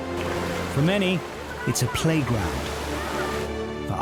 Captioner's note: people chattering; person shouting; water splashing